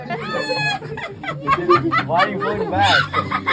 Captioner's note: laughter